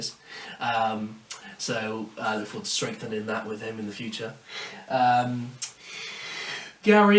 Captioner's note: clicks tongue